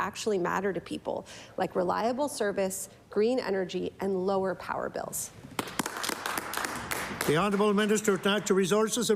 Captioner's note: applause